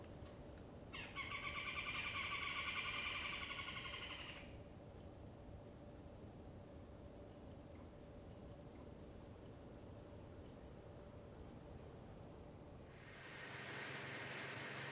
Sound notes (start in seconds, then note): 0.9 red-bellied woodpecker call